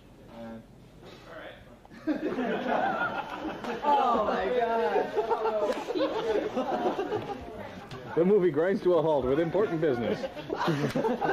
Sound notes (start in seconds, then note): 1.9 laughter; 5.8 laughing; 11.1 laughing